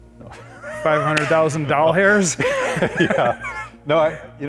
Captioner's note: laughs